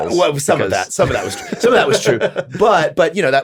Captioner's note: laughs